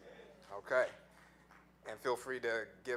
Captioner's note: audience murmuring